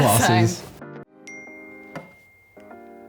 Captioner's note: ping